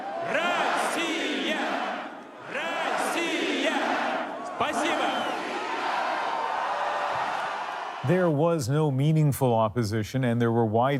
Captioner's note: speaking russian